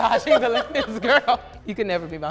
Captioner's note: laughs